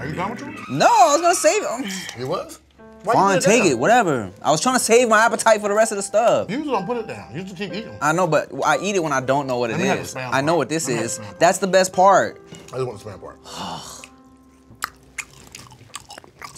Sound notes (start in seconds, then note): 1.7 sighs; 13.4 sighs; 14.5 chews loudly